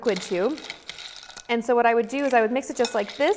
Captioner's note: ice clatters